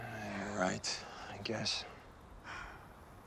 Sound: sighs

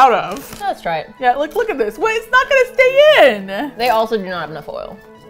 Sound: passionately

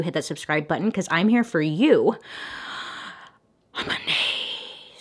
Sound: inhales deeply

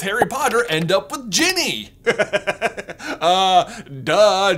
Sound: laughs uproariously

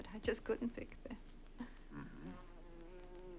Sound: bee buzzes

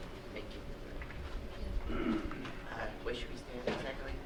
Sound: audience murmuring

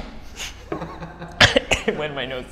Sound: coughs

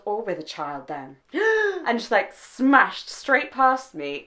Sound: gasp

